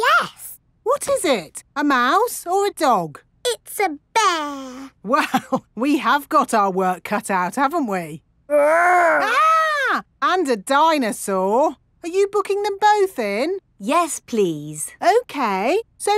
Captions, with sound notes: Yes! What is it? A mouse or a dog? It's a bear! (CHUCKLING) Well, we have got our work cut out, haven't we? -Grr! -(MOCK SCREAMING) And a dinosaur! Are you booking them both in? -Yes, please. -Okay.